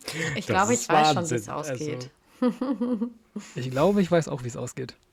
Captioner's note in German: gelächter